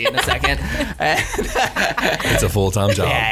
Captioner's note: laughs